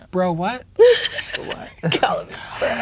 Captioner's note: laughing